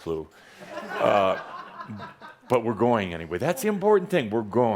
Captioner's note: laughter